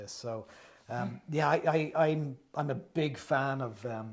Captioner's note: none